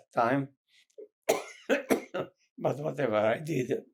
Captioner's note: coughing